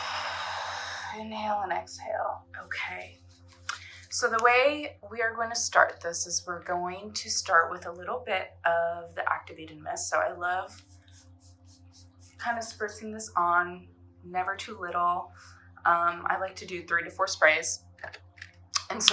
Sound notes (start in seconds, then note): 0.0 exhaling; 10.7 spritzing